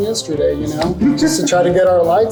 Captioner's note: group laughs